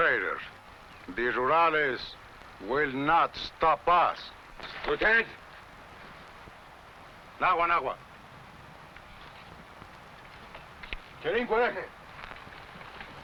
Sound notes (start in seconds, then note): 7.5 speaking foreign language